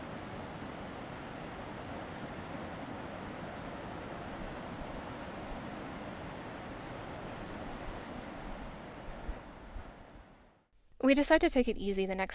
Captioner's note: Arkansas River noise